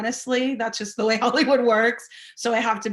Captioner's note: laughing